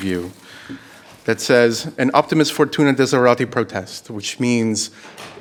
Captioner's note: speaking in foreign language